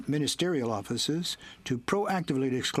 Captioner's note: speaking in french